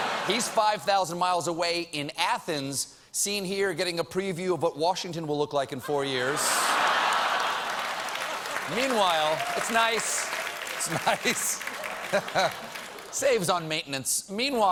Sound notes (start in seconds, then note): 6.7 applause